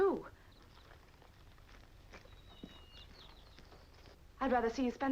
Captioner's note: birds chirping